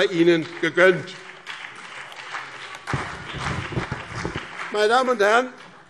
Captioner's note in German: Beifall BÜNDNIS 90/DIE GRÜNEN und CDU